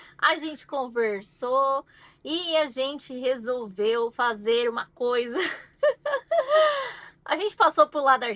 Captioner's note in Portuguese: risadas; suspirando